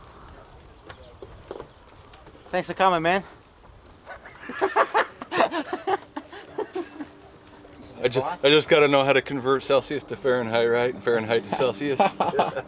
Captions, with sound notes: Thanks for coming, man. [LAUGHTER] I just got to know how to convert Celsius to Fahrenheit, Fahrenheit to Celsius.